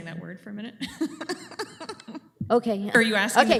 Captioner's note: laughs